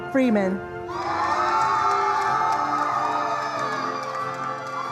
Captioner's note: attendees applauding